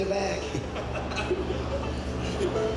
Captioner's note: laughs